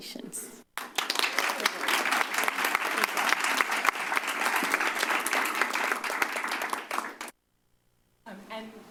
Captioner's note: applause